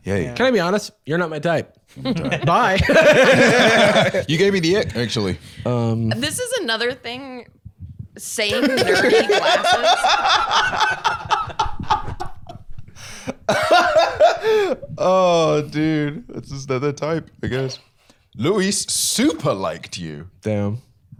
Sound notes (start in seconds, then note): 2.0 both laughing; 8.4 all the boys laughing; 13.4 laughs